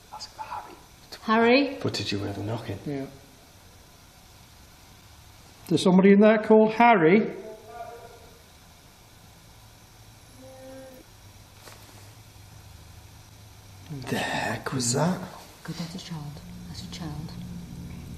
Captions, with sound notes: Ask for Harry if it's a boy. - Harry? - But did you hear the knocking? - Yeah. Is somebody in there called Harry? (buzzes faintly) - What the heck was that? - Oh my god, that's a child. That's a child.